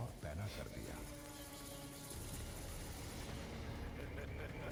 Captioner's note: bats chittering; ominous music playing; sinister laugh